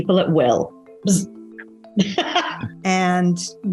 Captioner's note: laughs